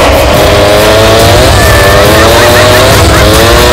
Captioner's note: Whirring sound